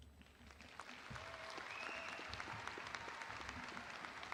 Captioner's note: audience applauding